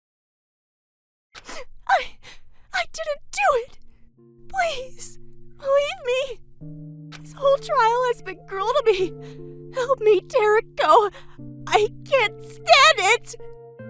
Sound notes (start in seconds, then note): 1.7 sniff